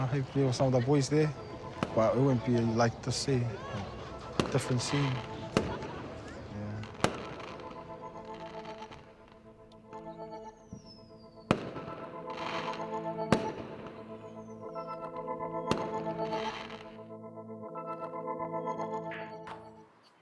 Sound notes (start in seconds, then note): 5.8 fireworks pop; 7.9 tense music